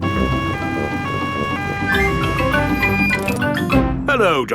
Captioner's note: siren wailing